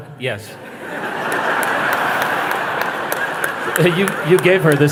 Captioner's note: risas